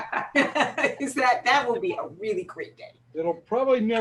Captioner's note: laughter